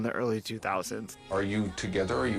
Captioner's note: soundbite of archived recording